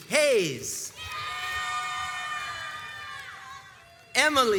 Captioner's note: crowds cheers and applauds